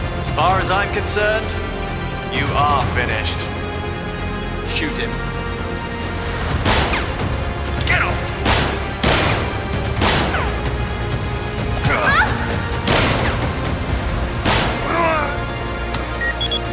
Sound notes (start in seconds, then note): 6.8 gun firing; 8.4 guns firing; 11.9 Kayleigh cries out; 12.8 guns firing; 14.7 Peterson groaning